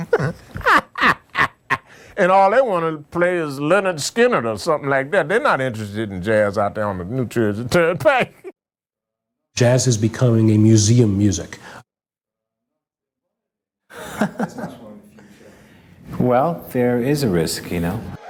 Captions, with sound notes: [ laughs ] And all they wanted to play is Lynyrd Skynyrd or something like that. They’re not interested in jazz out there on the New Jersey Turnpike. Heh. Jazz is becoming a museum music. [ laughs ] Well, there is a risk, you know.